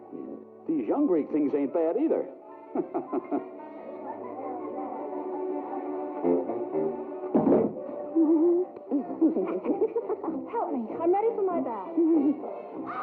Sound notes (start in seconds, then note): 2.6 chuckles; 7.3 thumps; 8.8 both giggling